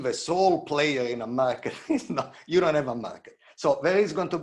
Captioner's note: chuckles